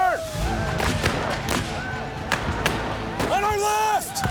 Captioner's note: gunfire